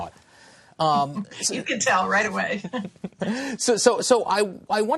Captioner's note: laughter